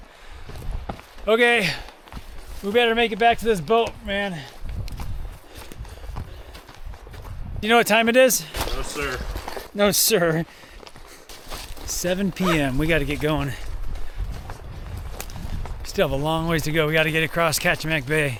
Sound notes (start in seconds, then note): none